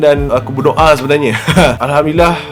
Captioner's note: laughs